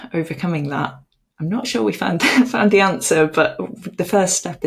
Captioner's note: chuckles